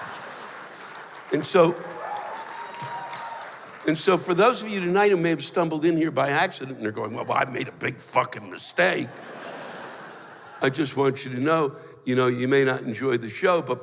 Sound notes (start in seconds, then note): 2.2 cheers and applause